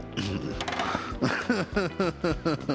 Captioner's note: laughs